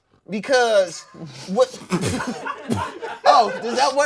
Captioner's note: and crew laugh